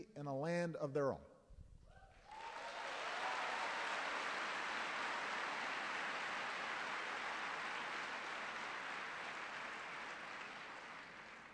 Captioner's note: applause